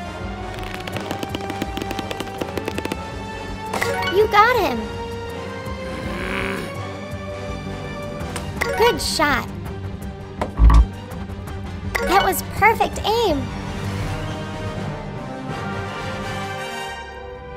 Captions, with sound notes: (slingshot squeaking) You got him. (soldier groaning) Good shot. (buzzer buzzing) That was perfect aim. (suspenseful music)